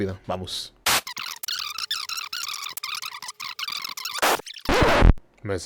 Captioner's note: quick recipe noises